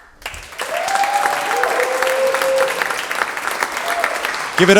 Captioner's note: audience applauding